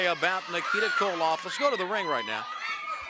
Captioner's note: crowd cheering